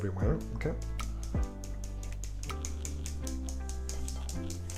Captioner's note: hand hitting